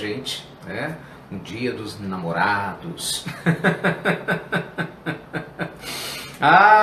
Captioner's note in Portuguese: risos